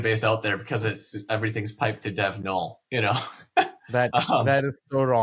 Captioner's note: laughs